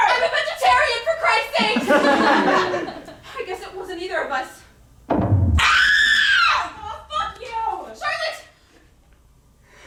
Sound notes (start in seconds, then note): 5.6 scream